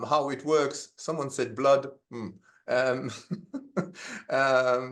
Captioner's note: laughs